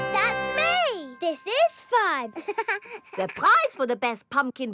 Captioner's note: chuckles